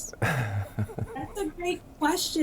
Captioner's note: laughs